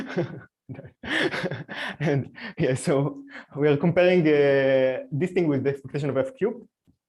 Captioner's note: laughs